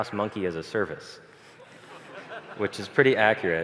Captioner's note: 폭소